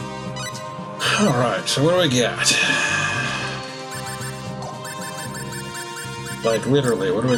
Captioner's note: sighing